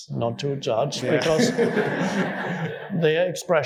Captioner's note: audience laughing